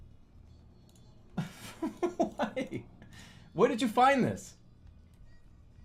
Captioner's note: bursts out laughing